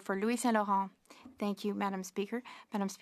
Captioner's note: speaking French